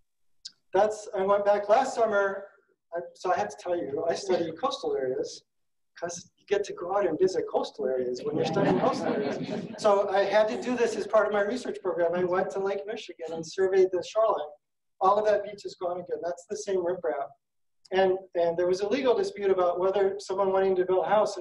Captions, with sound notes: I went back last summer. So I have to tell, I study coastal areas because you get to go out and visit coastal areas, when you're studying coastal areas. (audience laughing) So I had to do this as part of my research program. I want to Lake Michigan and surveyed the shoreline. All of that beach is gone again. That's the same riprap. And there was a legal dispute about whether someone wanting to build a house